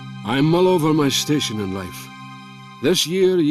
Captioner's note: Voz en off